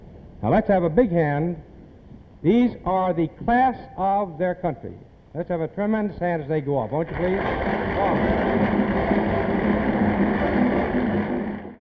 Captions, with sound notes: Now let's have a big hand. These are the class of their country. Let's have a tremendous hand as they go off, won't you please? (applause) (marching band music)